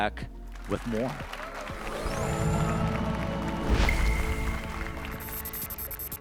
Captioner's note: applause and cheers